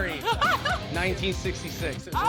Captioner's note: girl laughing